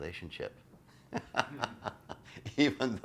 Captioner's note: laughs loudly